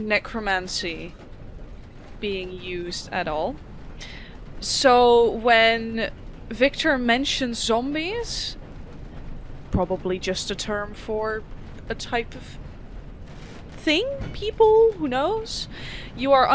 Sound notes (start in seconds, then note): none